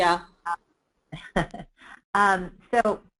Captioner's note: laughing